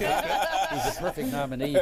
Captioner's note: laughter